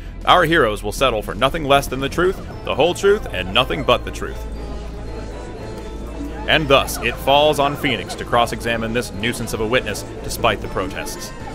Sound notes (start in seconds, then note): 4.8 commotion and monkey noises